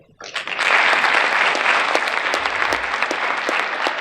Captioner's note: crowd applauding